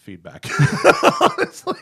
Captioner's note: laughter